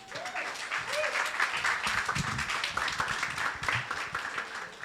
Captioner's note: audience applauding